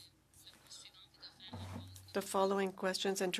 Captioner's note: speaking French